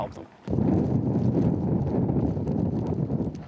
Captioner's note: howling wind